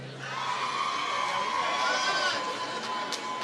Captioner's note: applause